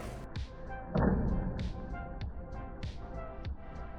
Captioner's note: thud 💥